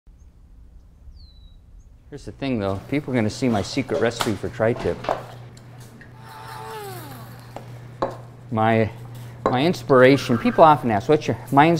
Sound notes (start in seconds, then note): 1.0 birds chirping; 6.1 whirring motor noise